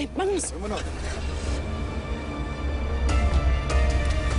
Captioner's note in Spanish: Ruido al prender el motor